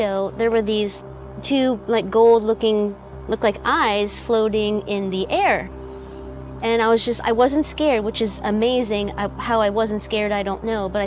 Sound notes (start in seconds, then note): none